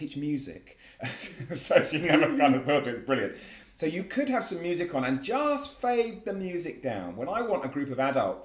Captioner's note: laugh